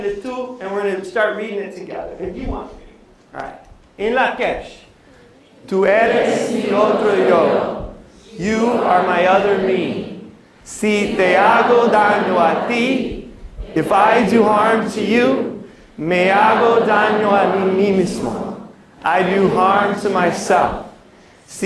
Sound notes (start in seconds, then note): 0.0 non-english speech; 6.2 non english speech, audience reciting; 10.7 non-english speech; 16.0 non-english speech